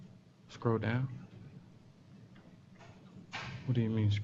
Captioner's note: pause; pause